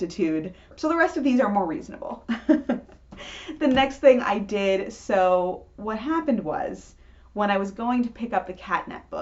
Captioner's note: chuckles